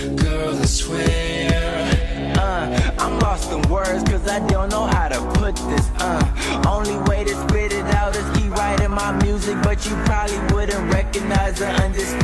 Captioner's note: laughs